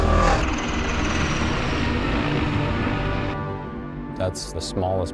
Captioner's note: motor revving; helicopter whirring